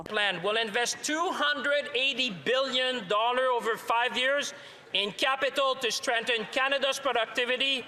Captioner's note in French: voix de l'interprète